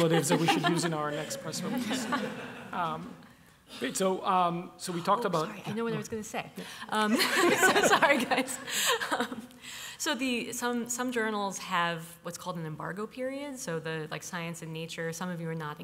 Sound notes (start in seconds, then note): 2.4 laughter; 7.1 chuckles